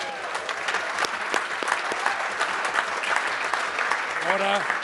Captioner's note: members applaud